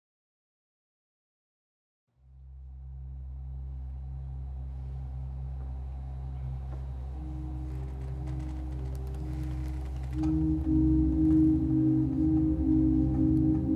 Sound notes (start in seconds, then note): 1.8 gentle brooding music; 7.6 chair creaking; 10.2 gentle brooding music